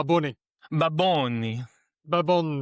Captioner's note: in a puerto rican accent; still in a puerto rican accent